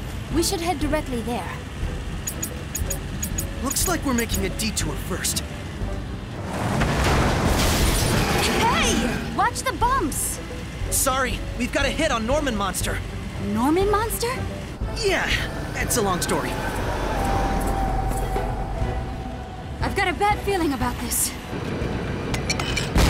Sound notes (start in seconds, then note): 2.1 ticking; 6.4 banging